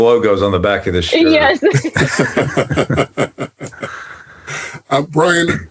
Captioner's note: all laugh